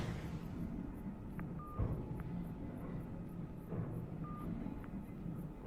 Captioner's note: phone beeping